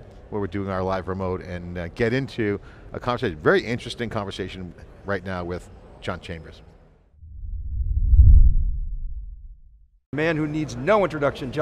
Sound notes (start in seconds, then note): 7.2 logo whooshing